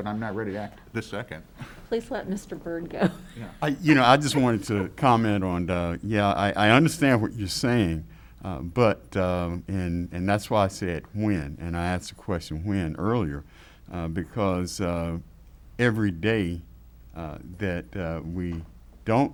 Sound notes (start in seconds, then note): 2.9 laughs